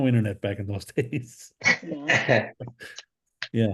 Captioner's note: laughs